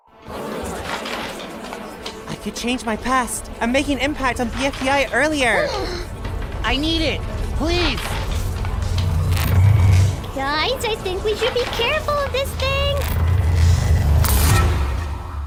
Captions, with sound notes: [ARGUING] I could change my past… AND MAKE AN IMPACT ON BFDI EARLIER! [GASP] I NEED IT! PLEASE! GUYS, I THINK WE SHOULD BE CAREFUL OF THIS THING–